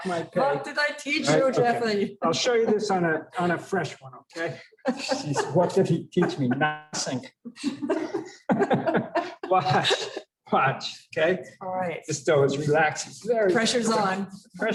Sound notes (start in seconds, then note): 7.6 laughter